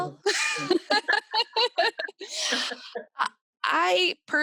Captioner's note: both laughs